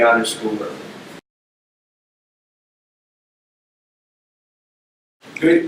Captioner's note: silence